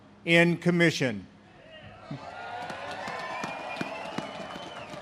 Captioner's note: audience cheers